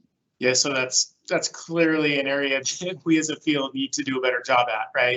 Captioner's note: chattering